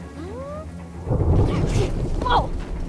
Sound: gasping; thunder rumbles

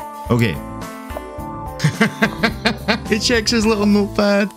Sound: laughing

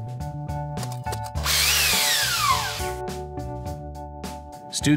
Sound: drill whirs

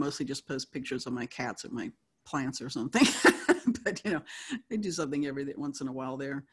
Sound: laughs

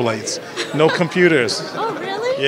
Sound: laughter

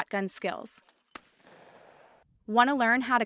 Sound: gun firing sound

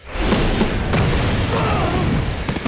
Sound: screaming

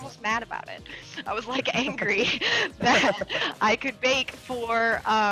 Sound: laugh

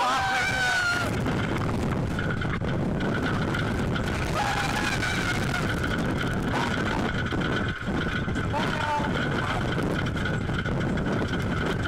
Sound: screaming

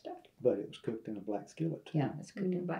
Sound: laughs

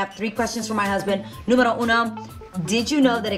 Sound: speaks in foreign language

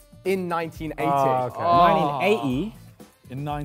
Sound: Sidemen sigh

